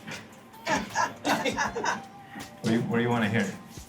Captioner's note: all laugh